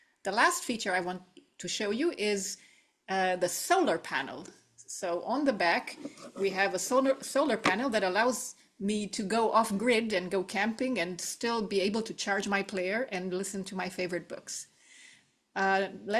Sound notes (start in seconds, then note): none